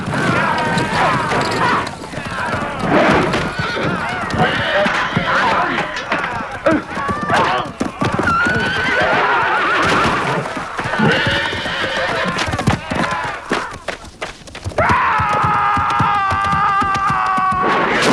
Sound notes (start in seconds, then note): 1.0 Hundra grunting; 4.0 horse neighing; 7.0 Hundra grunting; 7.0 man groaning; 8.7 horses neighing; 14.9 man roaring